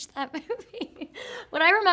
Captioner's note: Shailene chuckling